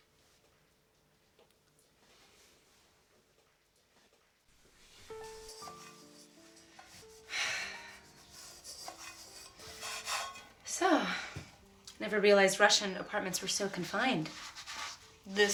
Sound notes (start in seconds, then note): 5.9 light music; 7.2 sighing